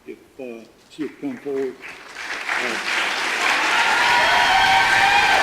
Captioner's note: audience applause